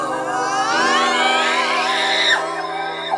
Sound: sustained melodic yelling; scream; sustained melodic yelling

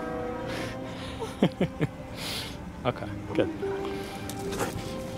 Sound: laughter

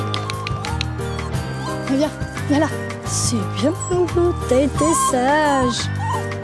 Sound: applause

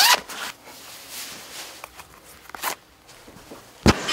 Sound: zip; rustling of Pants and shoe laces

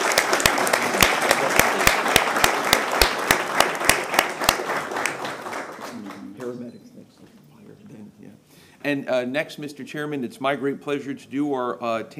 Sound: applause

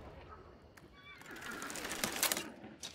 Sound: horse whinnying

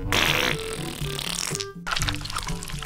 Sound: cheeky parp

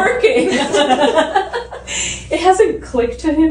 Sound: laughing

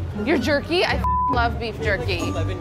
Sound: beeps

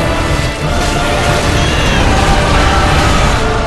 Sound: baby crying

